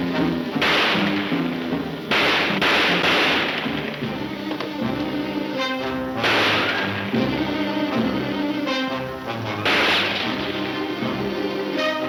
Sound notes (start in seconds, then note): 6.2 gunshots banging